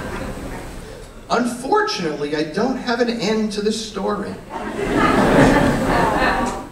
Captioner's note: laughter